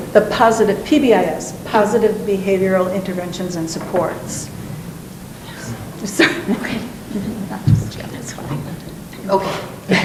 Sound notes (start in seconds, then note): 5.8 talking